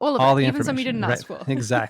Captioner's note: both laughing